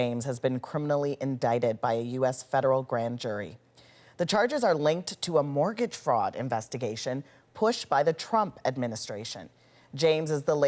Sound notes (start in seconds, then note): none